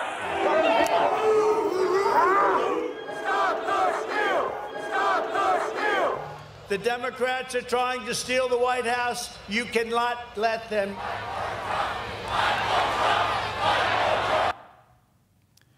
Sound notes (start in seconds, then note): 0.0 shouting; 6.4 shouting